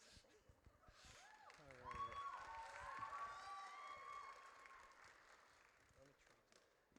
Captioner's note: audience cheers